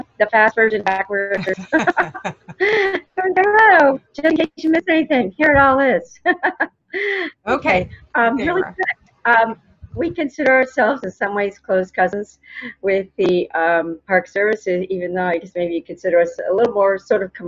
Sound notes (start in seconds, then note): 1.3 chuckling; 7.5 laughs